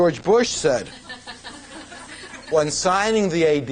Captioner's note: laughter